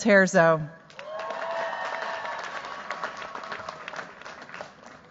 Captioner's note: cheers, applause